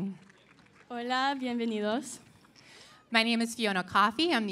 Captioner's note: speaking in Spanish